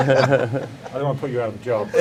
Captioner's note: men laughing